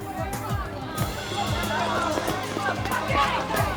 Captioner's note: yelling